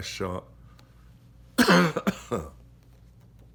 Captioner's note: coughs